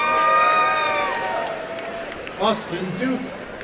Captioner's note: applause and cheering